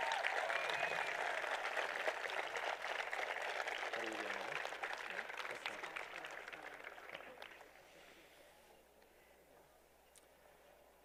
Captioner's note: applause